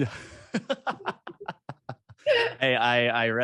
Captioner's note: both laughing